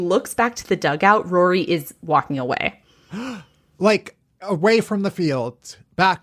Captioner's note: gasps